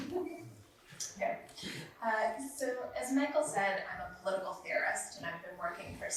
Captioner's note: laughs